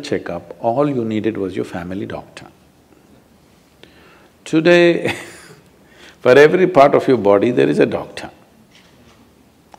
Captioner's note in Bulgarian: смее се